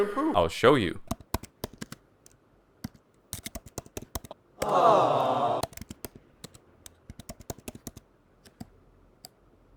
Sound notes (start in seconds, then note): 4.6 crowd awws 😭